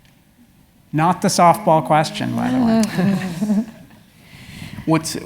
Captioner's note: laugh